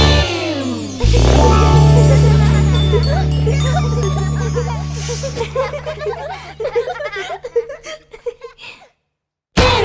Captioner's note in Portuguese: Música Alegre; Risos